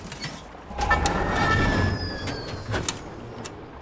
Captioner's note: whirring